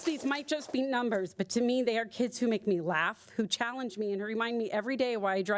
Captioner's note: applause